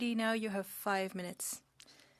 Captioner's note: speaking French